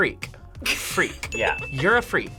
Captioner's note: React laughs